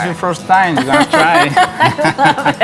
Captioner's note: both laughing